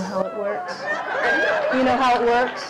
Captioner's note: audience cheering